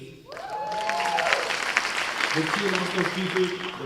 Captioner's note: cheers and applause